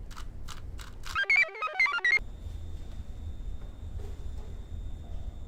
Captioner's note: computer chirps